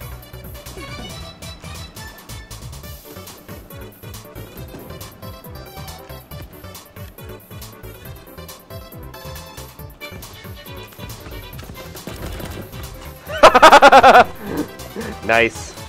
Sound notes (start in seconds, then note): 13.2 laughter